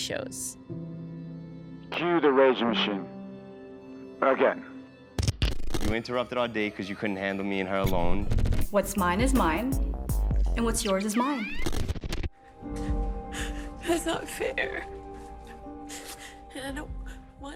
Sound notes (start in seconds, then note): 2.4 soundbite of montage; 13.0 crying